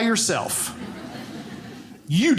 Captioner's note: audience laughing